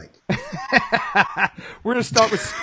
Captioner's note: laughing